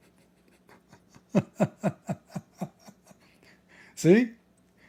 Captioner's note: Ketawa